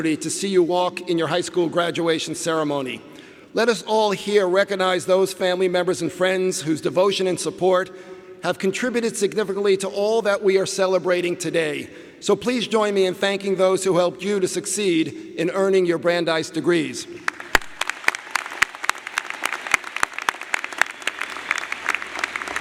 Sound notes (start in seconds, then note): 17.2 audience applauding